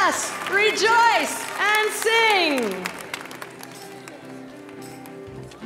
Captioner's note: applause